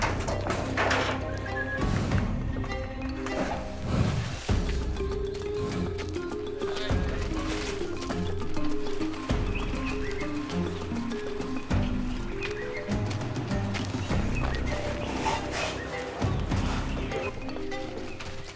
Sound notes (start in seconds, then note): 3.2 rhino huffing and grunting